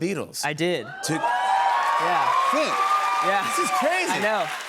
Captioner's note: cheers and applause